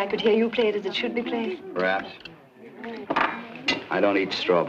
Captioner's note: chattering